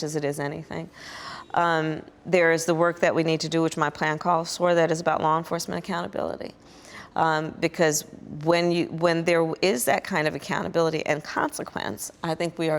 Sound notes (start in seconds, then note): none